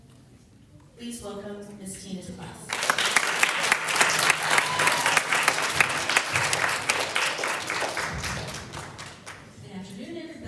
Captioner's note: applause